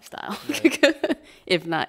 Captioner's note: laughing